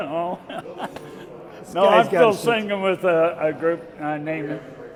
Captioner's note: chuckling